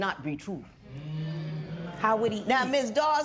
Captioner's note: spectators murmur